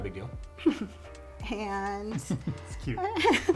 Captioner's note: laughs